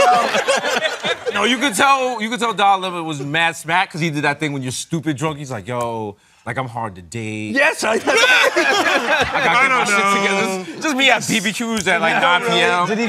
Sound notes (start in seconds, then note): 0.0 laughter; 7.9 laughter